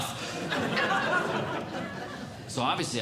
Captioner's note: audience Laughing